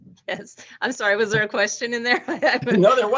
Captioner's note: laughing